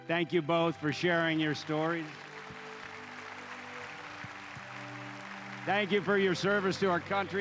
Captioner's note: applause